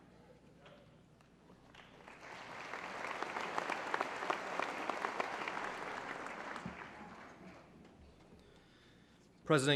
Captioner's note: applause